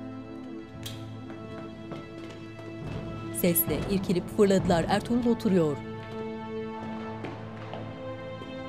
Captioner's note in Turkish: Ayak sesi